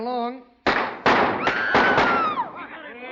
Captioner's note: gunshots; screaming